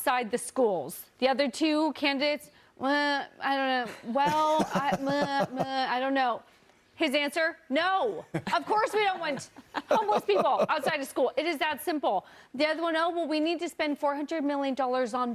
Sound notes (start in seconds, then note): 8.3 laughter